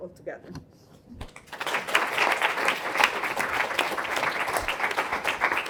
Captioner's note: applause